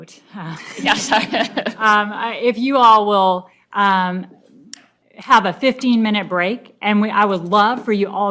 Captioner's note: laughs